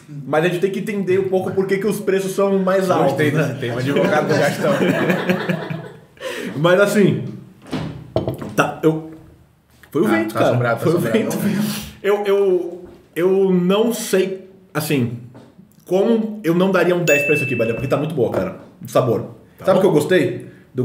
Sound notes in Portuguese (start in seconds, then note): 3.9 risos; 7.6 som de porta batendo